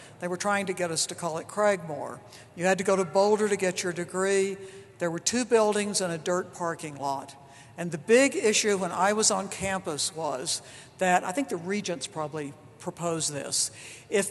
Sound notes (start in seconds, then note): none